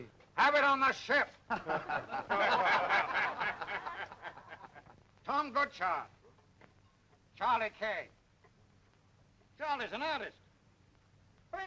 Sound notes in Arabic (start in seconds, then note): 1.4 الرجال يضحكون